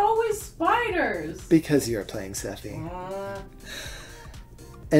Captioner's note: grumbles